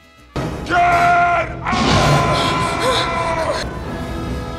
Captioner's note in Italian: ruggendo